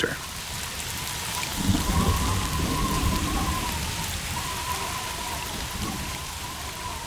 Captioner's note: rain pattering; wind howling